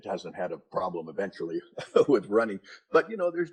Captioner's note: laughs